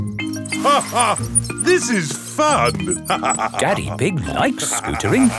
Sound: laughs

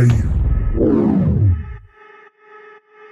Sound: woosh

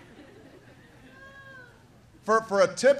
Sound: laughter

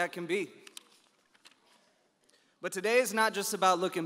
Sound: pages rustling

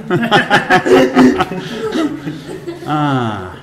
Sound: all laughing

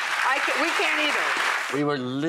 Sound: audience applause

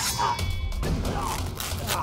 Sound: sound of ropes being cut

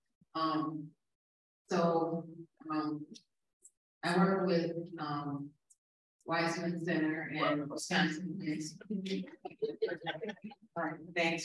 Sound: cheers from audience

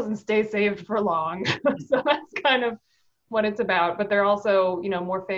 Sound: laughing

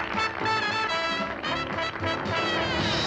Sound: applause

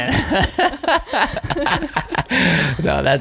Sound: laughing

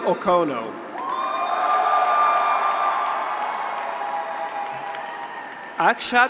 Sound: graduates cheer; audience applauds

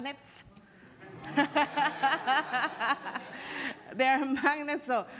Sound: laughing

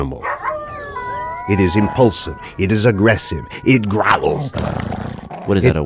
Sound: wolf growling

